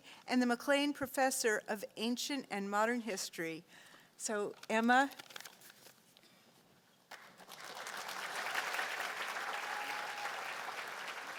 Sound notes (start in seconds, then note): 7.1 applause